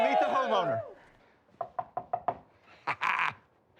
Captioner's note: laughs